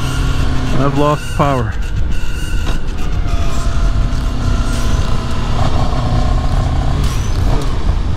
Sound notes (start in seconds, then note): 5.4 engine bogs